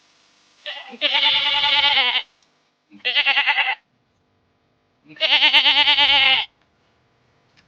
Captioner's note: animal Sound